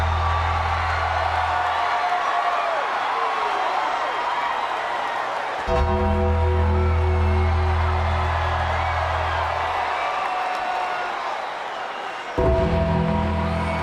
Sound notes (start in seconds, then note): 1.9 audience cheers; 5.7 ominous music continues; 7.4 audience cheers; 12.4 ominous music continues